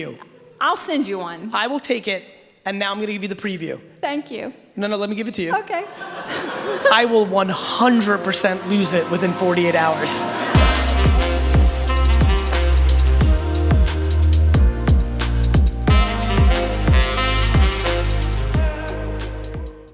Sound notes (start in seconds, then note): 5.8 audience laughing; 10.0 upbeat music